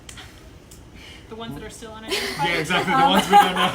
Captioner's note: laughing